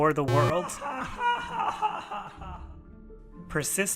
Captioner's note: echoed evil laughter